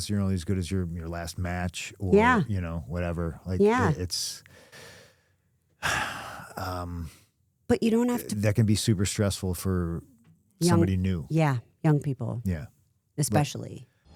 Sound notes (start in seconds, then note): 5.8 sighs